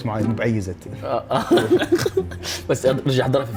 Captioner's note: laughs